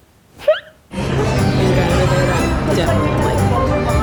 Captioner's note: squeaks